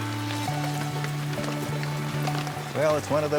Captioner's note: rain falling